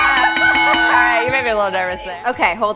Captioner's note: cheering; bell rings